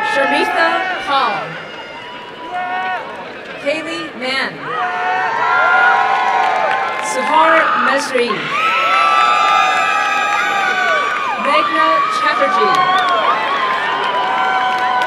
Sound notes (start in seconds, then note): 4.7 applause and cheering